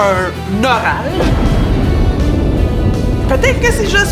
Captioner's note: thunder roars